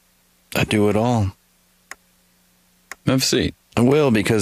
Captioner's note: clock ticking